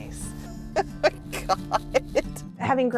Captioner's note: laughing